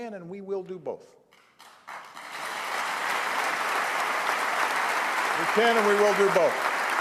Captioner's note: applause